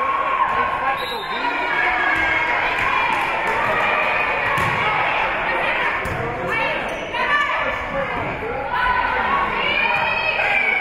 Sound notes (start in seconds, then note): 0.9 whistle being blown; 2.9 spectators shouting encouragements